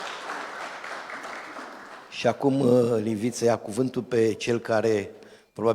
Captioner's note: Aplauze